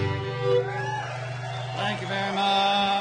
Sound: audience cheers, applause

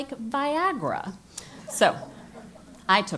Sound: laugh

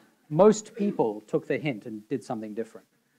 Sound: audience laughing

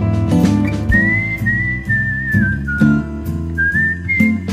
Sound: whistling

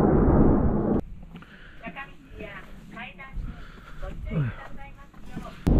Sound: he's gasping because he's tired

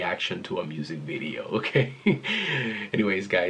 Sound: chuckles

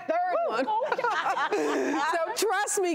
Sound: laughing

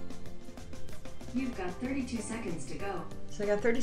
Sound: computer Voice

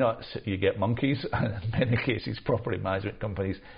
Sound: chuckles

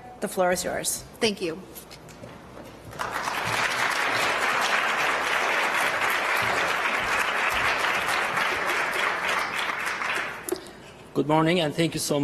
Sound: applause

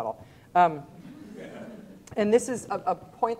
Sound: students laughing

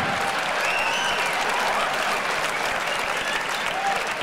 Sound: audience laughs; audience cheers

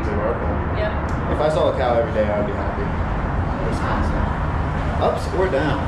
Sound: muttered

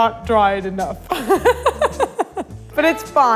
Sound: laughs

